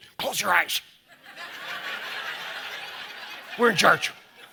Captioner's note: audience laughing